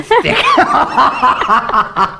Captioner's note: laughs